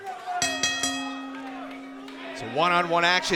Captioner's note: bell ringing